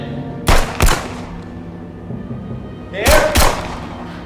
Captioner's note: gun bangs